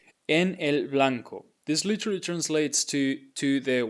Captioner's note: speaking in Spanish